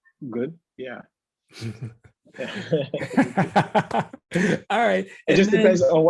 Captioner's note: laugh